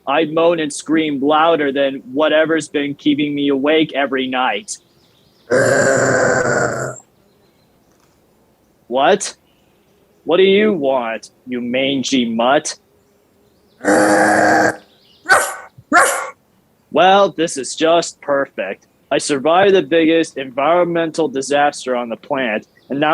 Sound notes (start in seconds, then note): 5.4 Lilith growling; 13.8 Lilith growling; 15.2 Lilith barking